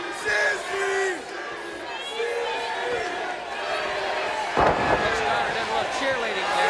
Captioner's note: audience chanting